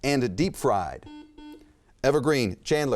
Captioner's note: buzzer chimes